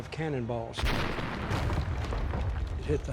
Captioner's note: cannon firing